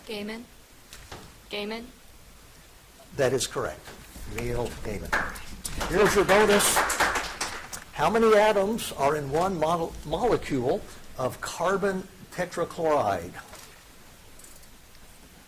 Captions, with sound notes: - Gaiman. Gaiman. - That is correct. Neil Gaiman. (audience applauding) Here's your bonus. How many atoms are in one molecule of carbon tetrachloride?